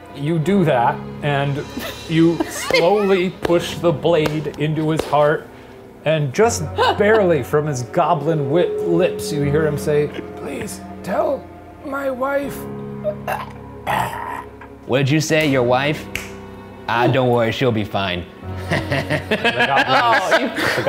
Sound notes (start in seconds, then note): 13.4 groaning; 18.6 laughing